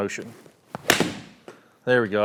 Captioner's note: club thwacking golf ball